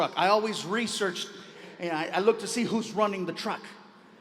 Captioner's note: none